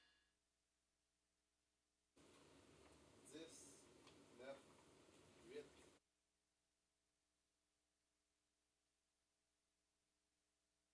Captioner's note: silence